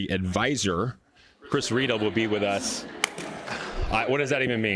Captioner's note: audience laughs